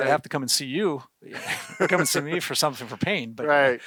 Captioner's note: both laugh